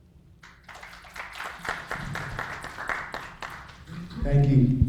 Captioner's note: applauding